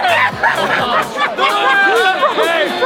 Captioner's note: laughs